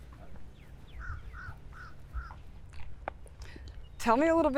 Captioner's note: birds calling